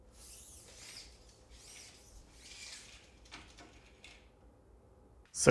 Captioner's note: tape measurer squeaking